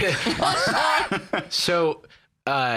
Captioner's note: laugh